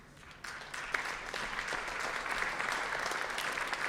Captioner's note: audience applauds